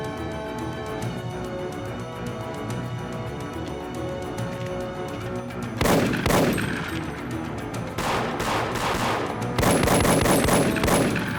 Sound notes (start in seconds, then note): 5.8 dramatic music; 5.8 gunshots blasting